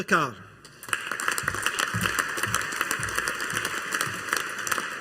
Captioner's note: audience applauding